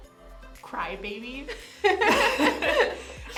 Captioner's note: both laugh